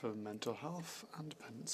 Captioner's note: speaking French